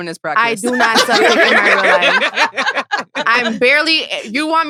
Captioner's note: all laughing